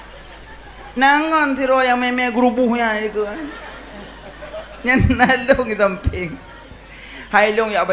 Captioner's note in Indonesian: tertawa